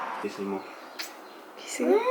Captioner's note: smooches